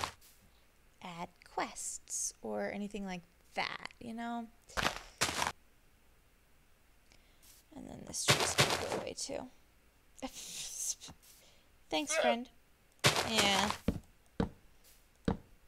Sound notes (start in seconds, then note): 10.5 splutters; 12.1 llama squeaks